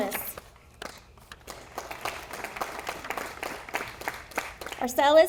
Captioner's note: audience applauding